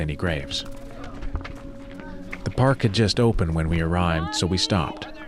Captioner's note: people playing soccer